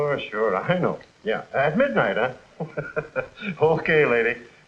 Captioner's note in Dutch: lachend